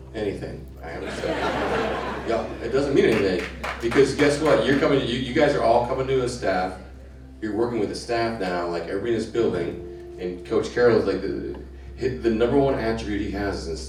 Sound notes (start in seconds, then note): 0.9 crowd laughing